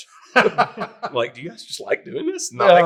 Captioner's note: all laughing